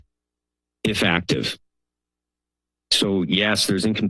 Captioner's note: pause